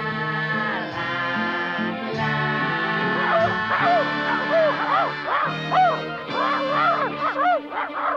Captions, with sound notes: (Arrow barking) Hey, come on, Arrow.